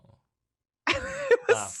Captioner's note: laughs